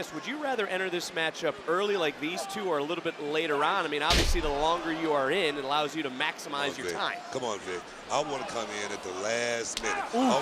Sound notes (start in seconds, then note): 4.1 thuds